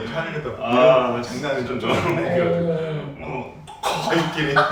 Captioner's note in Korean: 저절로 나오는 탄식